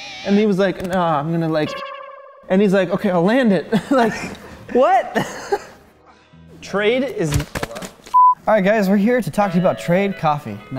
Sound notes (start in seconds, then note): 1.6 awkward sound effect; 7.3 smack